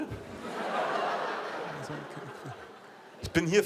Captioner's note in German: Lachen